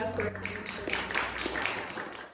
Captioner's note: applause